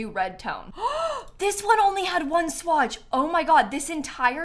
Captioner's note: gasps